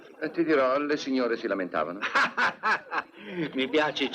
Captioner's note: laughing